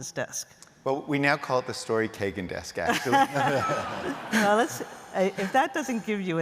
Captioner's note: laughter